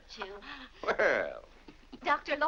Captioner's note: chuckles